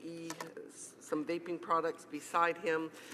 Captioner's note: none